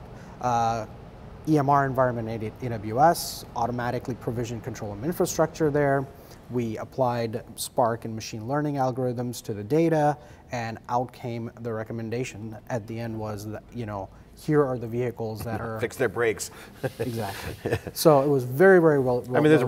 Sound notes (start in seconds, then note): 16.6 laughing